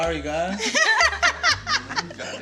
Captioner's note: all laughing